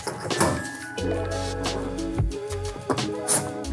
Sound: panel clicking

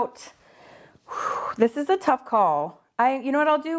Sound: sighs

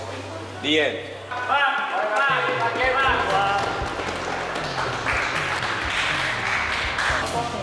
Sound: light Confused Applause

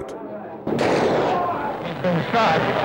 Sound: gunshot

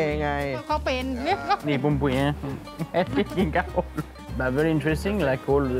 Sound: laughing

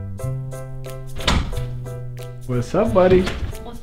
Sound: door closes

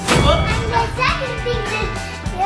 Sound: both exclaiming

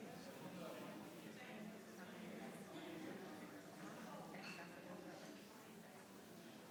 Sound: people chattering continues

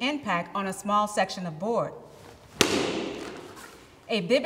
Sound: board snaps

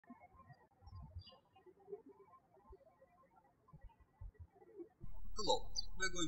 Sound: birds chirping

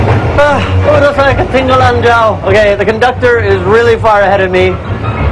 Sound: speaking indonesian

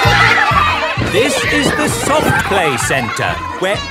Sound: loudly over shouting

